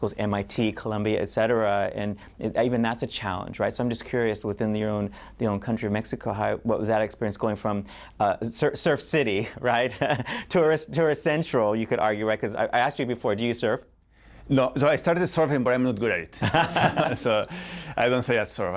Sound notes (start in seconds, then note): 9.9 laughter; 16.4 laughter